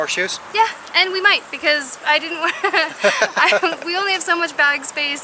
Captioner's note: laughter